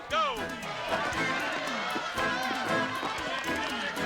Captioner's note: crowd yelling